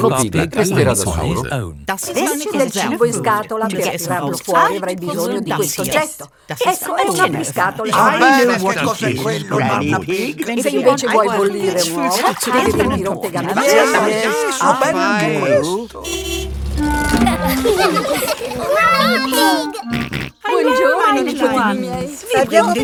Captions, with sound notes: Grandpa Pig will be on his own. This is a tin of food. To get the food out, you will need this. It's a tin opener. I know what it is, Granny Pig. If you want to boil an egg, fill a pan full of water... Yes, yes... I know. -(CAR HONKING) -(LAUGHING) -Granny Pig! -(SNORTS) Hello, my little ones.